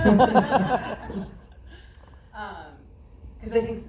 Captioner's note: laughs